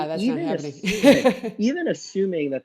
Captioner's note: laughs